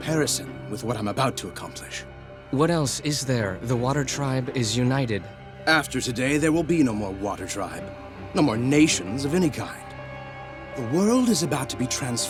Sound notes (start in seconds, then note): none